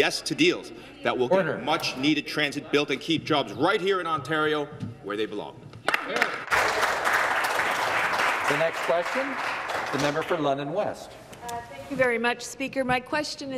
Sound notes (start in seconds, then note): 10.7 some Applause